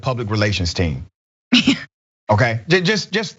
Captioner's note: laugh